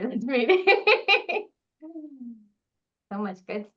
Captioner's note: laughing